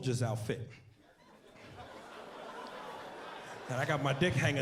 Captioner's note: laughter